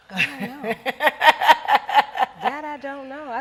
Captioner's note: laughing